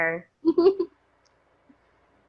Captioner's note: laughing